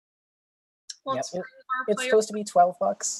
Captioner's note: speaks faintly